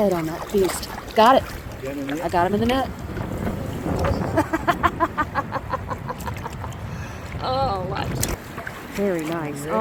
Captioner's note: laughter